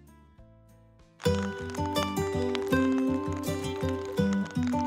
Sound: raindrops

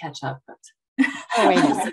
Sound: chuckles

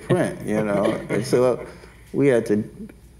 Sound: laughs

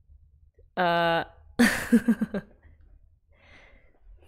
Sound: laughs

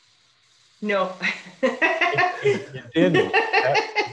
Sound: laughs

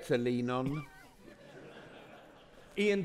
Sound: audience laughing

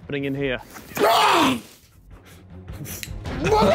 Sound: screaming

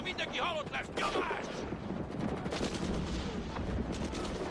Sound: gunfire and artillery booming

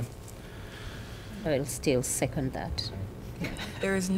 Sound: laughter

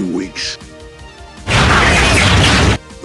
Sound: transforming noise

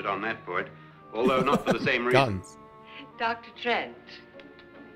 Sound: laughing

